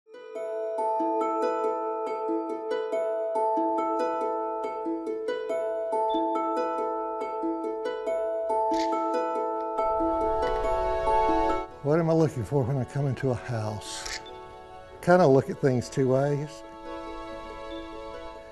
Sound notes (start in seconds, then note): 0.6 gentle harp music; 8.7 shutter click; 14.0 shutter click